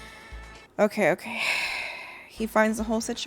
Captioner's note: sighing